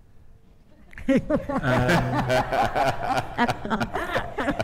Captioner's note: all laughing